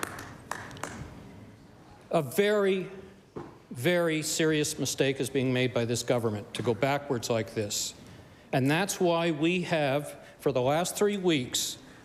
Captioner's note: applause